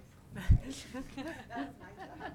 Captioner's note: laughing